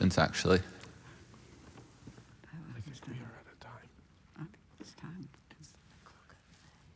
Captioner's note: whispering